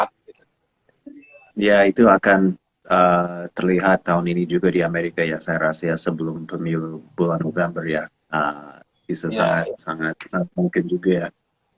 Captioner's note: non-english speech